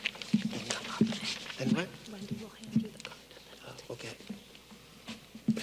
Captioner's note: people chattering